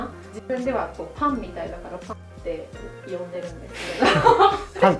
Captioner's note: laughs